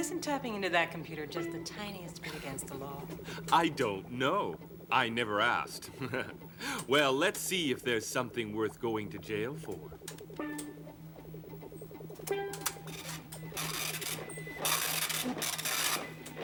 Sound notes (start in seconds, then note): 5.5 laughs